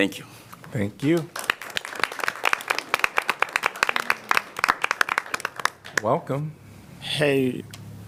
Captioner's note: applause